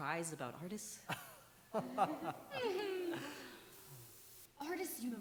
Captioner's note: laughter